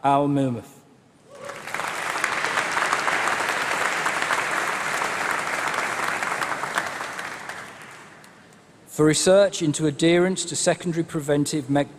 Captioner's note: applause